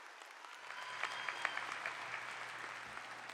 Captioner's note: applause